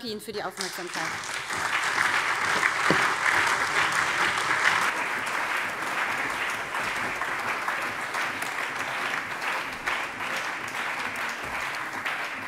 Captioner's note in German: Allgemeiner Beifall